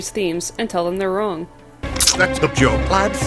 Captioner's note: smack